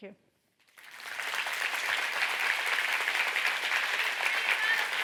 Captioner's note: audience applauding